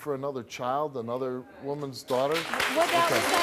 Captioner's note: clapping and booing